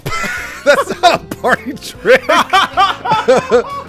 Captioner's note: laughter